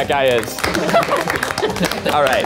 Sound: audience applauds

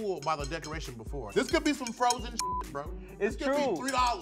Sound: beep

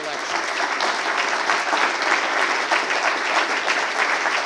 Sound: applause

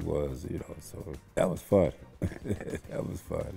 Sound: laughs

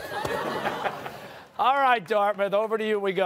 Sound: laughter

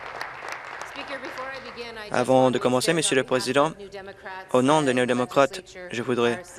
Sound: applause

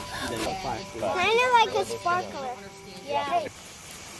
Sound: blowing; chattering

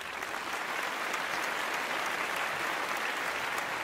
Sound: applause

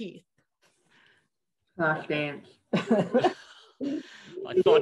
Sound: laughter

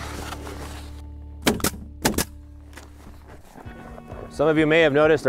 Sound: nail gun popping

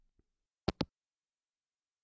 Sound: hangup

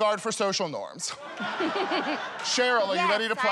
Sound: laughter

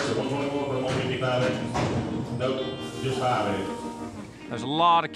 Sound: auctioneer speaking rapidly

